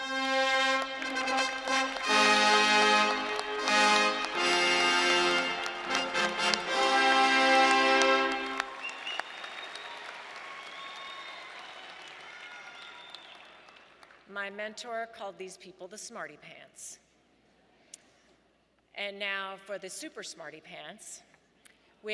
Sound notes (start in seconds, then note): 0.0 fanfare music playing; 8.8 audience cheering and applauding